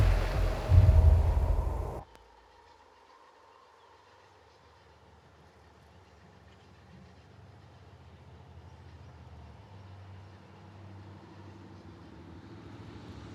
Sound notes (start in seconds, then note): 1.9 wind howling